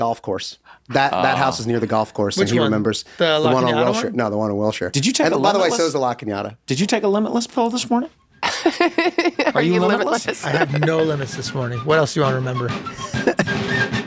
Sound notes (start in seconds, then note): 8.4 laughs; 13.8 jaunty military music